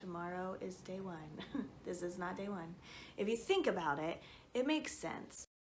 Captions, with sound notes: - Tomorrow is day one. (chuckles) This is not day one. If you think about it, it makes sense.